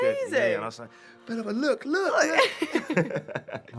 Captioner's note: laughs